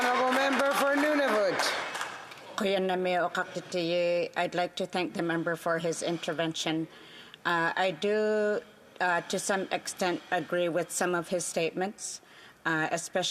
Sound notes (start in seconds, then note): 1.6 some Applause